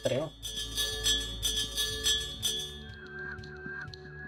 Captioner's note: bells jingling